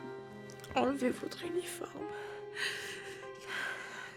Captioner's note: speaking French